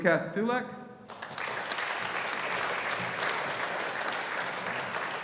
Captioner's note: audience applauding